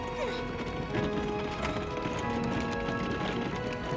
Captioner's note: grunting